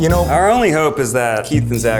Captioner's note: beeps